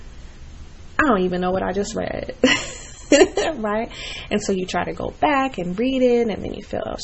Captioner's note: laughs